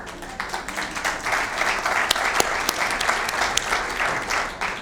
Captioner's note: applause